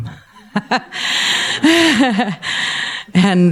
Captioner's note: laughing